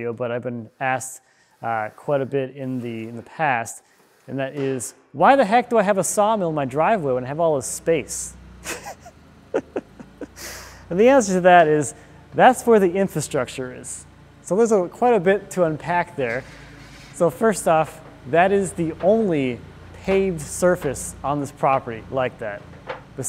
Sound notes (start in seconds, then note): 9.5 laughing